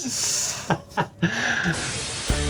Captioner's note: laughing